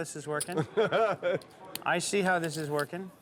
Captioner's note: laughter